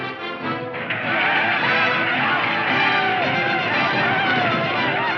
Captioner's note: indians hollering